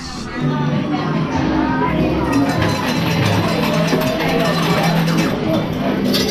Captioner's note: machines beeping and clattering